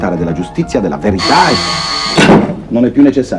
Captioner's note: the telephone rings